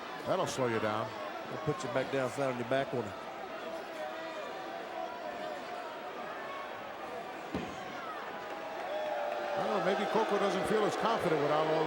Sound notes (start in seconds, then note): 4.3 crowd murmuring